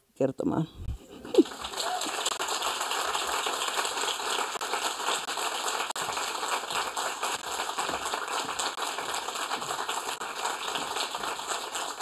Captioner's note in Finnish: Aplodeja